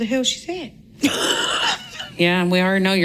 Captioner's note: laughing